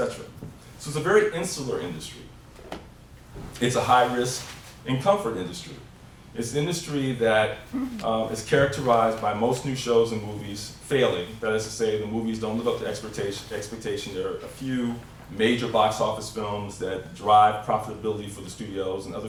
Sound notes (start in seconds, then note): none